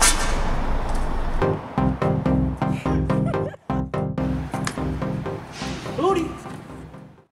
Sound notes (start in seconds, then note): 2.7 camera person laughing